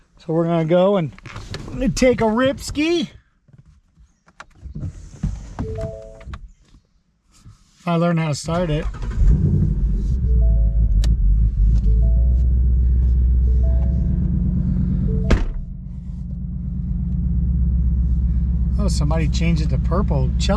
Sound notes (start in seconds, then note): 5.5 car beeps; 9.5 car beeps; 9.5 engine purrs; 15.1 car door thuds